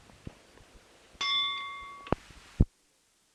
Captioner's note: bell Sound